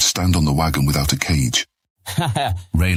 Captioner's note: laughs